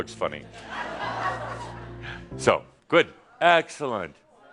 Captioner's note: more chuckles